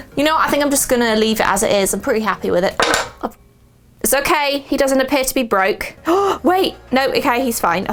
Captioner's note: gasp